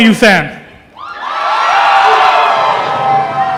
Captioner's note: cheering